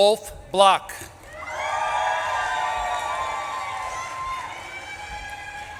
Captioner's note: audience claps and cheers